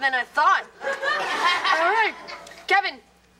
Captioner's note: audience laughter